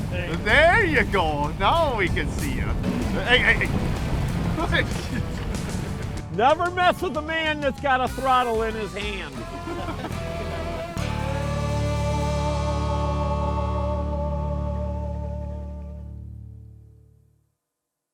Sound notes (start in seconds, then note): 0.0 voiceover; 4.9 chuckles; 9.3 chuckles